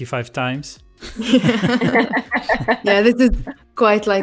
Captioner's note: laughter